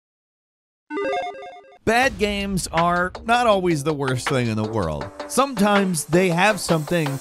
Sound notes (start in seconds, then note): 0.7 soft chiming